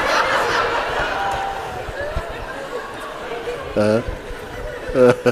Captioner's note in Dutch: Mooji lacht